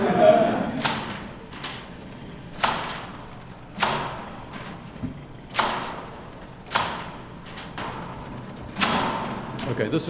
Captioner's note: laughter; machine Sound